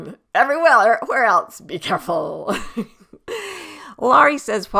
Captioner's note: laughs